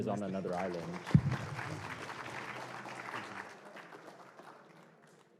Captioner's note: applause